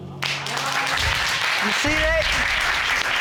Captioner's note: audience applauds